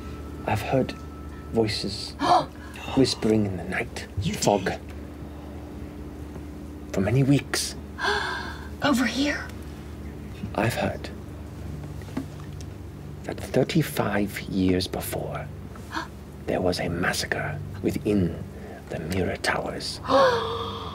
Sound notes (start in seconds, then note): 3.6 gasps; 8.0 gasps; 15.0 gasps; 20.1 gasp